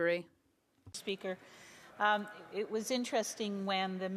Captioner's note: speaking French